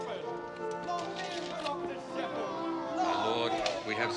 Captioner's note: crowd cheers